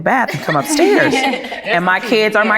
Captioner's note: ladies laughing